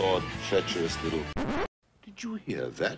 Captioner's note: record scratch sound